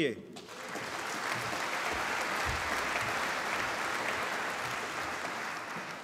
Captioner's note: applause